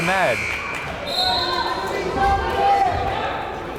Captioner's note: timer buzzes